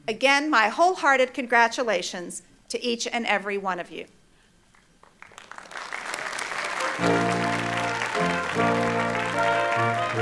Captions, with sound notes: Again, my wholehearted congratulations to each and every one of you. (Applause)